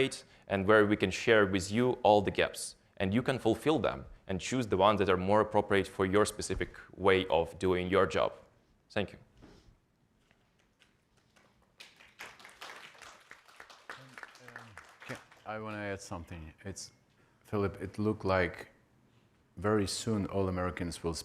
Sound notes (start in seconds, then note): 11.2 audience applauding lightly